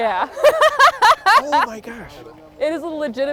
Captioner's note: person laughing